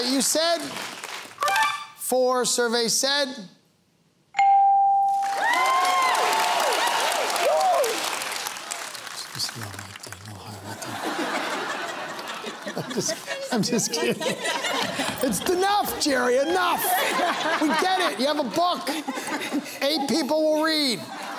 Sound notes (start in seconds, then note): 5.2 cheering and applause; 10.6 laughter